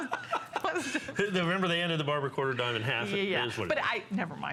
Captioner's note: laughter